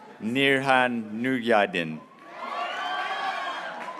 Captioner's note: graduates cheering